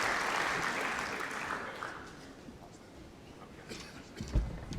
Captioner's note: applause